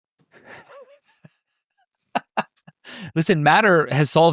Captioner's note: laughing